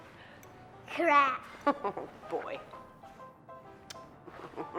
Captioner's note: mom chuckling